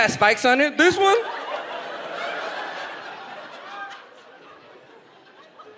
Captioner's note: audience laughs